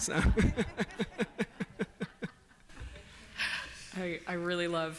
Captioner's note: laughter